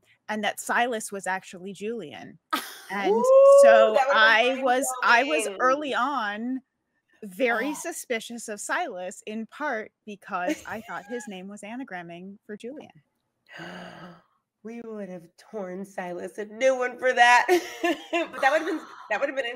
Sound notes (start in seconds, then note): 2.8 laughs; 10.4 laughs; 13.5 gasps; 17.8 laughs